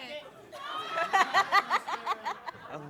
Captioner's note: laughter